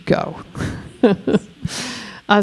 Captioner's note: chuckling